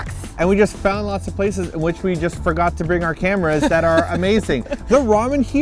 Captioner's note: laughs